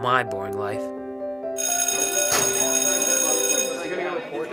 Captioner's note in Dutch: bel gaat